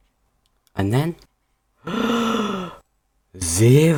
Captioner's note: gasp